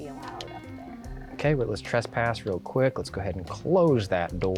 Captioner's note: pat